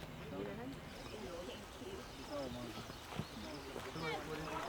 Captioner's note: people chattering